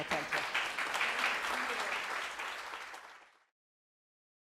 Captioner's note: applause